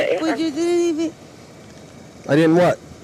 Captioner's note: radio chatter